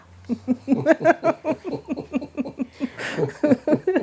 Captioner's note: both chuckling